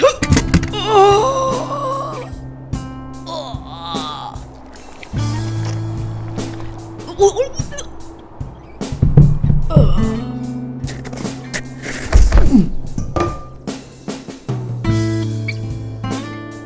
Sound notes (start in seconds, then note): 6.6 gurgles